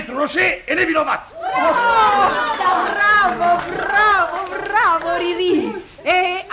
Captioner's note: everyone applauds